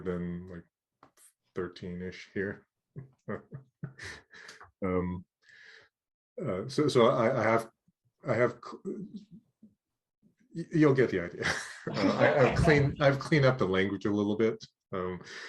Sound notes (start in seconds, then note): 3.0 laughing